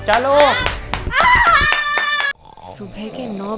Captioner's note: screms of agony and frustration